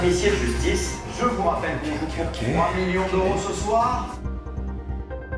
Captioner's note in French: Voix OFF